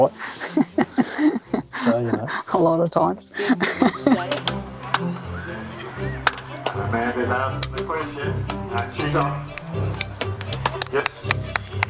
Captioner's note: laughing